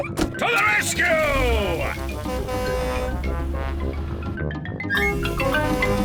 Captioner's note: horn blares; horn blares